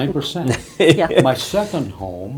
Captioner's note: laughing